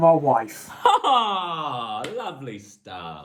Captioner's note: laughing